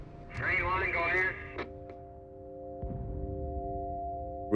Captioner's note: radio chatter